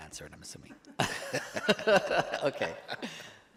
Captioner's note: board members laughing